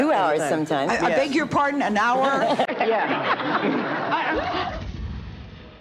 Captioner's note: audience laughs; dramatic music